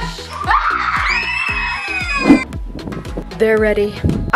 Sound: children screaming

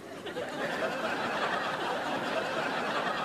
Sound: laughing

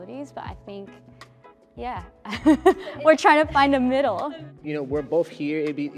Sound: laughs

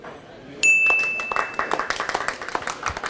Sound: bell dings; applause

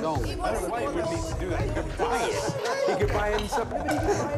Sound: continuous chatter

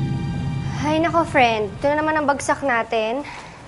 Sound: sigh

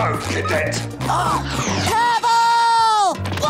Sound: gasping

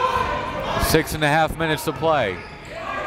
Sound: crowds cheering and yelling

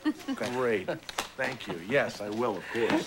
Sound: laughs

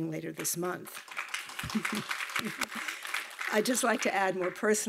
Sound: audience clapping

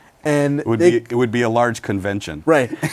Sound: laughs

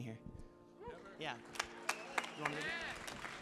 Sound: audience applauding

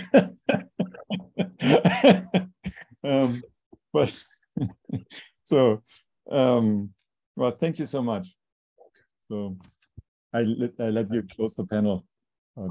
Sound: laughter

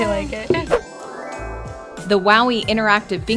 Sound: magic twinkling

